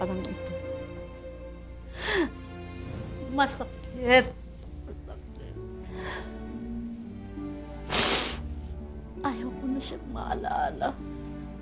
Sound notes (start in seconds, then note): 1.9 inhales; 7.8 sniffles